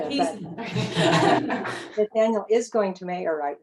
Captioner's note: laugh